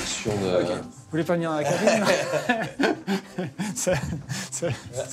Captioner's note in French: rires